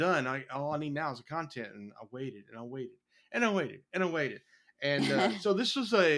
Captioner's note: laugh